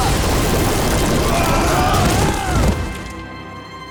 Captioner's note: screaming